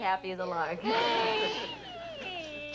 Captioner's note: Stanley cries